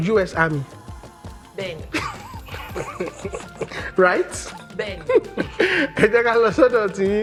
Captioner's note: laughs